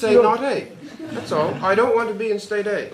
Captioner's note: laughter